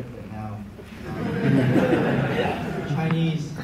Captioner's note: crowd laughing